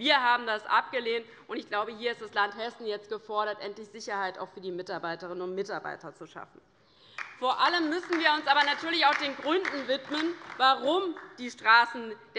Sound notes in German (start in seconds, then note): 7.1 Beifall bei der LINKEN